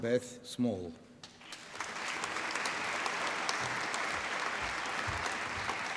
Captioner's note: applause